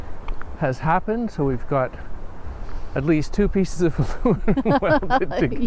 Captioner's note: laughing